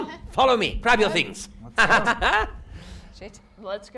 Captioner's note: laughs